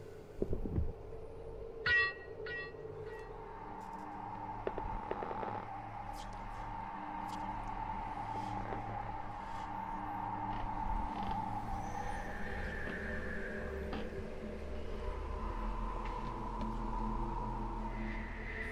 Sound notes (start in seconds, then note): 2.0 suspenseful music; 2.0 wind howling